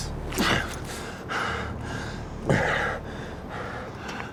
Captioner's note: hard breathing